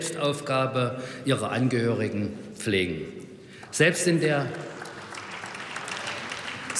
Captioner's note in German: Beifall bei der AfD